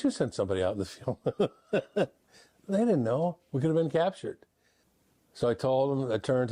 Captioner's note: laughs